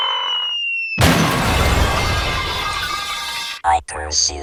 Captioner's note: loud crash!